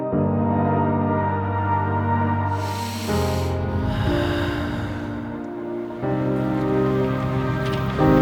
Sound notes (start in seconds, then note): 1.7 deep breathe in; 4.0 breathe out